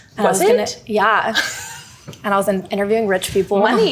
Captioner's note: laughing